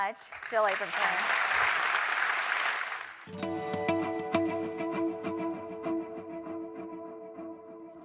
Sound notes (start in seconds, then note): 0.0 applause